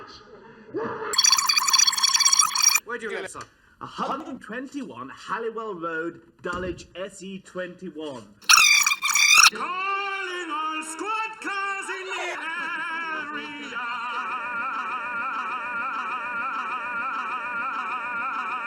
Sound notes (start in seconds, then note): 1.1 high pitched gibberish meant to be an attempt at scrambling; 8.5 high pitched gibberish meant to be an attempt at scrambling; 9.5 singing